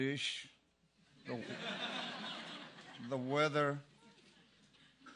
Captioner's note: laugh